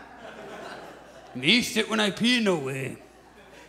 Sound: audience chuckles; in a lower tone

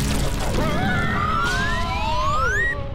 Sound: screams

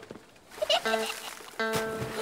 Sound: splash

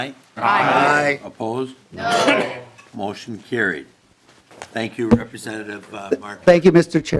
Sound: chorus of ayes

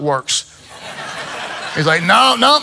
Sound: congregation laughs

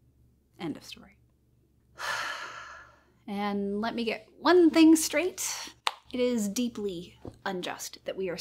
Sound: sighs

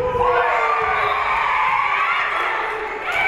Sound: spectators cheering; whistle being blown; spectators cheering and applauding

